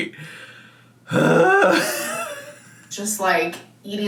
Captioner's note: sighs